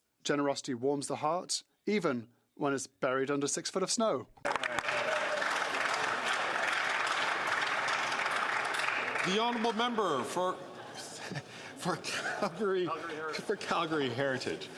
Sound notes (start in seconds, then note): 5.0 speaking French; 10.0 some Applause